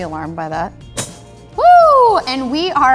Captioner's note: clunking